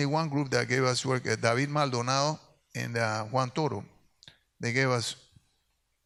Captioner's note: speaks in Spanish